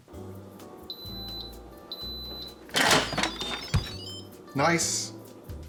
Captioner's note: machine beeps